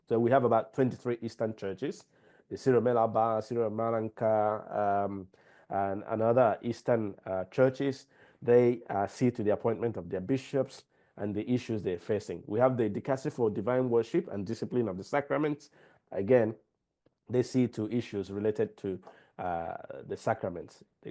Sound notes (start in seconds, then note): 2.6 speaking in foreign language